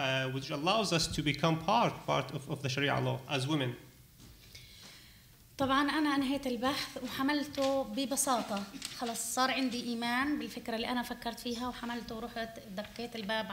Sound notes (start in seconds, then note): 5.5 speaking arabic